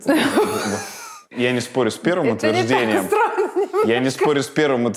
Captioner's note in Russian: смеясь